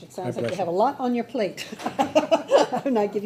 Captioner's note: laughing